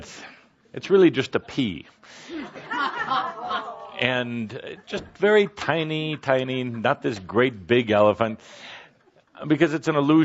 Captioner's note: laughter